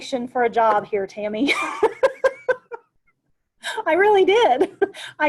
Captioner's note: laughs